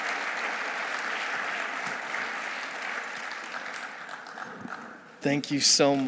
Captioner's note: audience applauding